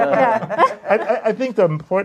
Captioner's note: laughter